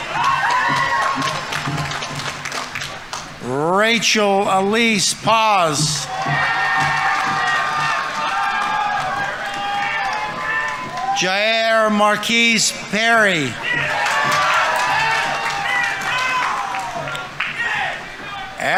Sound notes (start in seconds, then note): 0.1 audience applauding; 0.1 audience members cheering; 6.0 audience applauding; 6.0 audience members cheering; 13.7 audience applauding; 13.7 audience members cheering